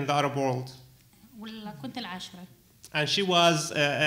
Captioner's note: speaking arabic